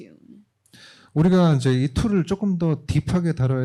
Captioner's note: speaking korean